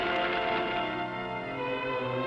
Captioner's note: whooshing